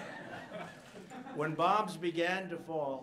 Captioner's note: laughter